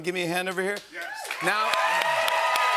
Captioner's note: cheers and applause